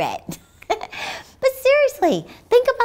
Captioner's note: laughs